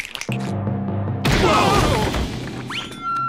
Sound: snapping; yelling

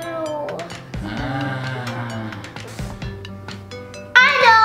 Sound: Lava Monster groans

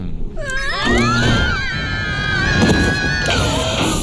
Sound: shrieks

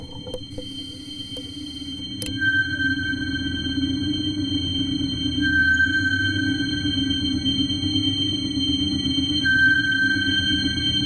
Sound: sonar ping sounding

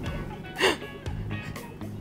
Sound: gasps

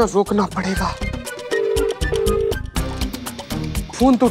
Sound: phone ringing

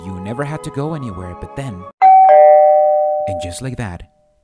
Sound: ding dong

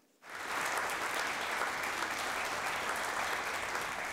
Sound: audience applauding

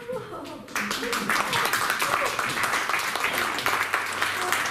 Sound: applause

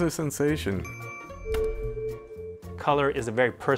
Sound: chiming

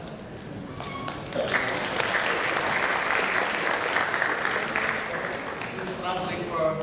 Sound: audience applause

